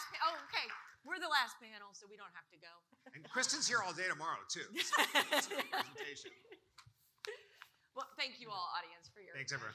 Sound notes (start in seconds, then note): 4.8 panel laughing